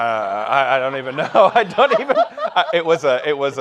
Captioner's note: laughing